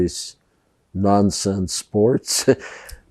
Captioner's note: laughing